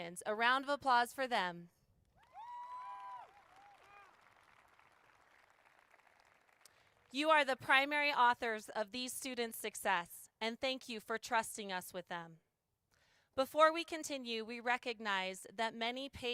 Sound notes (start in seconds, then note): 6.3 applause